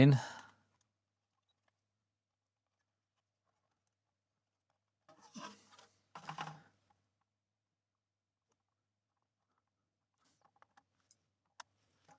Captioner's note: silence